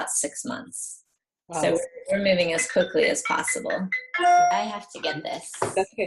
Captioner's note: phone rings